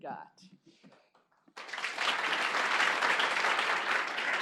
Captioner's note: applause